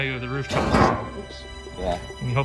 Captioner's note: bangs into furniture